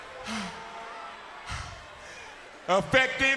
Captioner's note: Teddy breathes heavily